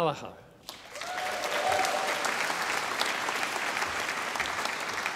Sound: audience applauding

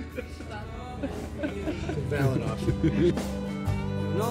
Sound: everyone laughs

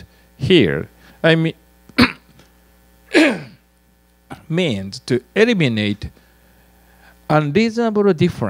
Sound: cough

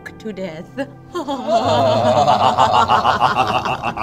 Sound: all cackle

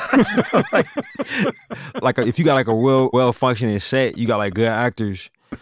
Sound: laughter

